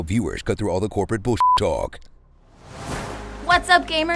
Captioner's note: beep